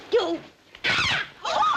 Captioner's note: Gwen screams